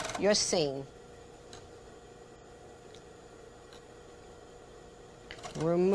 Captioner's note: sewing machine